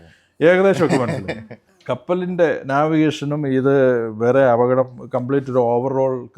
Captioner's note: laughter